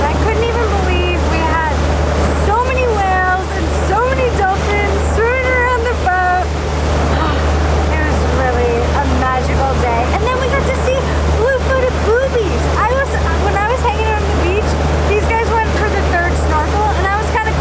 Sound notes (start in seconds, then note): 7.1 sigh